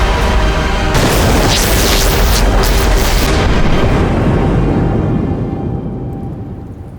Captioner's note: ominous orchestral music; sparks crackle; thunder claps